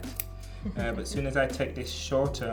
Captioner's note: Amandla chuckles